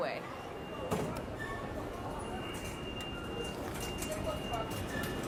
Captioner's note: machines beeping